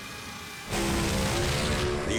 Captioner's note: engine roars